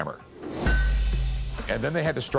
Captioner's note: clanks